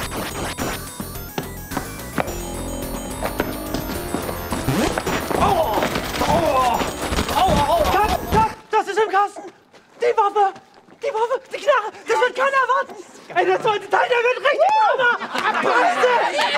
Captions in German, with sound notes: *Schritte* *Kampfgeräusche* Cut, cut, das ist im Kasten! Die Waffe, die Knarre, das wird keiner erwarten! Das wird der Hammer!